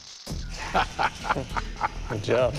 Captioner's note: chuckling